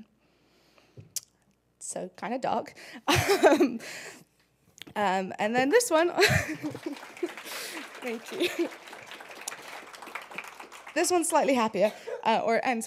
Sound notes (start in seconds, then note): 2.1 laugh; 6.2 applause